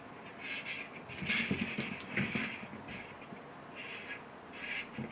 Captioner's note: marker scratching